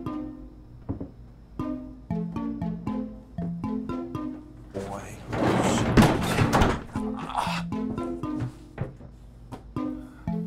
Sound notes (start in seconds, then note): 4.9 Mark grunts